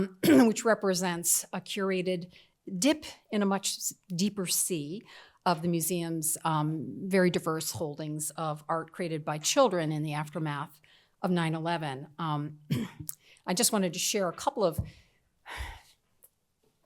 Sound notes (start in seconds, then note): 12.7 clears throat; 16.1 exhales